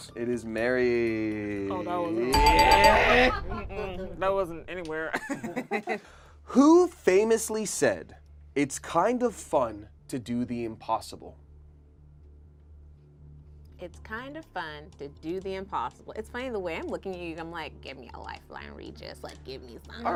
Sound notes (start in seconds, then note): 6.0 laughs